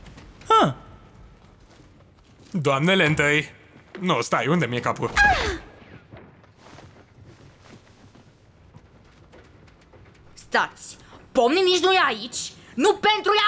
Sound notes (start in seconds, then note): 1.5 Gloink Queen groaning